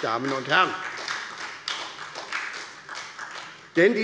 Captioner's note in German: Beifall bei Abgeordneten der SPD